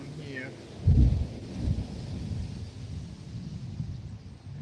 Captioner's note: wind blowing